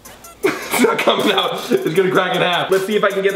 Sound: laughs

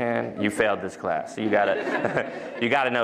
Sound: laughter

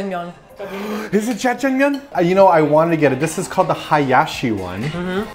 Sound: excited

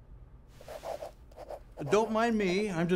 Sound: pen scratching

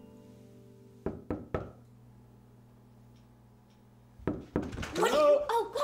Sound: knock, knock, knock

